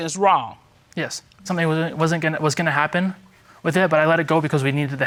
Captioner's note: stammering